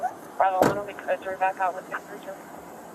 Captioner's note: radio chatter